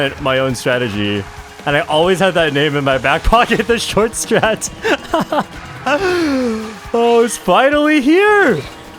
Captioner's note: laughs